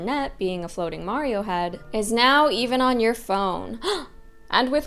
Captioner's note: gasp